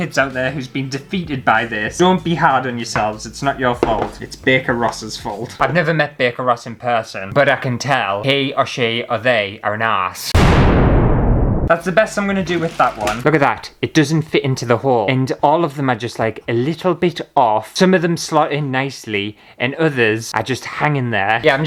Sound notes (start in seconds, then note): 10.3 explosion!